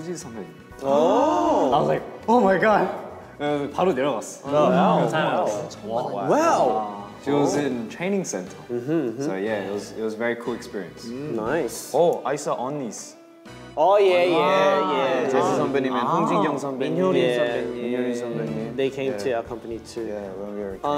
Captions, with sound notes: (speaking in Korean) I was like, "Oh my God!" (speaking in Korean) - Wow! - It was in Training Center. So, yeah, it was a very cool experience. - Nice. - Oh, I saw Unnies. (speaking Korean) - They came to our company too.